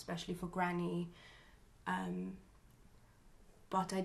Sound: pauses for 3 seconds

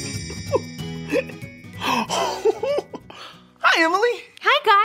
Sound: guy giggling

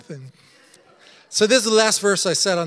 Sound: congregation laughing

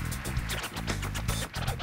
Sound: applause; record scratching rhythmically

